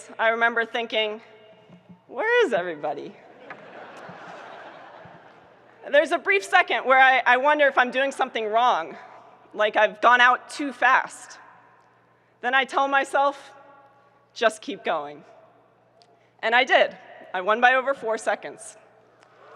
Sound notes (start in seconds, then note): 3.3 audience laughing